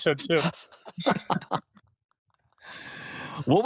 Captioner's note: laughter